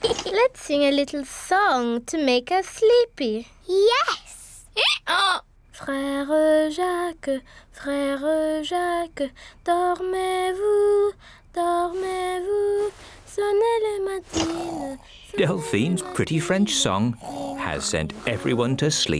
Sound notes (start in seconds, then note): 4.4 brays